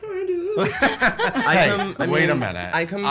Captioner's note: laughing